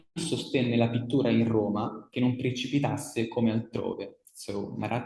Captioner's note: speaks in foreign language